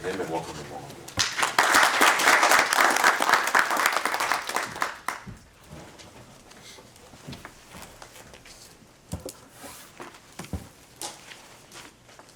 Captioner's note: applause